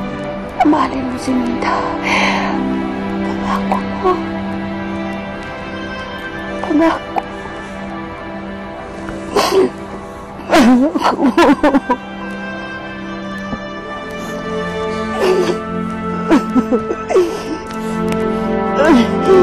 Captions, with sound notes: You will love Minda. Promise me. Promise me. [voice breaking] Promise me. [sad music playing]